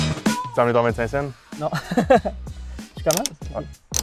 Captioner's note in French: rires